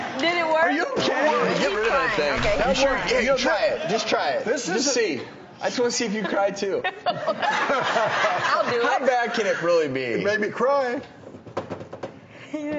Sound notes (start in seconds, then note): 6.0 all laughing